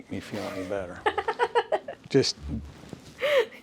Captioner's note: laughs